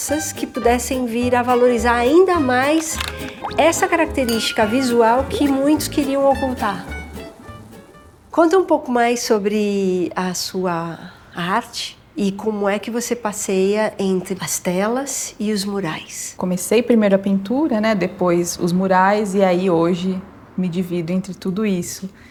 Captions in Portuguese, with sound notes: que pudessem vir a valorizar ainda mais essa característica visual que muitos queriam ocultar. [borbulhando] Conta um pouco mais sobre a sua arte e como é que você passeia entre as telas e os murais. Comecei, primeiro, a pintura, depois os murais, e aí hoje me divido entre tudo isso.